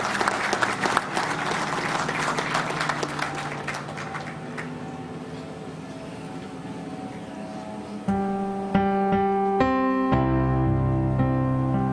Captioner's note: applause